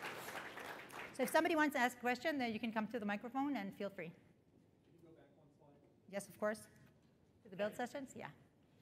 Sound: applause

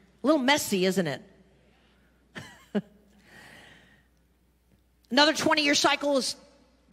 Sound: laughs

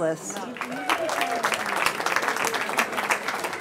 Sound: cheering

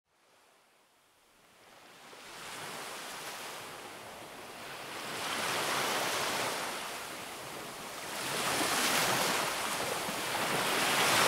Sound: relaxing Waves Sounds

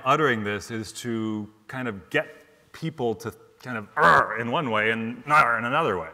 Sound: grunts

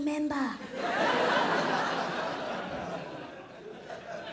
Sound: crowd laughs

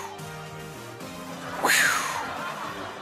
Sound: whoosh noise

